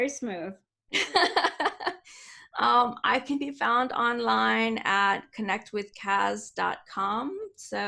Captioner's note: laughs